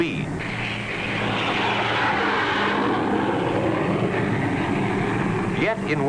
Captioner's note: zooming noises